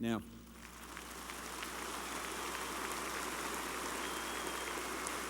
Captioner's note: applause